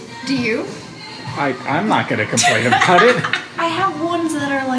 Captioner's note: laughs